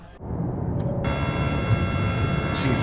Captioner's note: clown mech honk